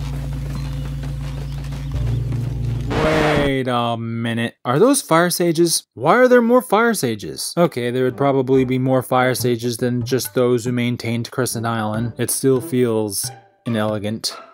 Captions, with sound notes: [Record scratch] Wait a minute. Are those Fire Sages? Why are there more Fire Sages? …Okay, there would probably be more Fire Sages than just those who maintained Crescent Island. It still feels… inelegant.